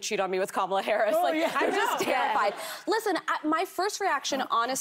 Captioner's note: laughter